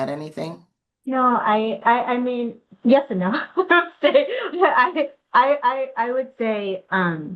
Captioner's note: laughs